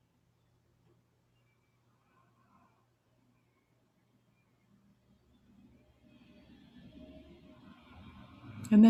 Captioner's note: silence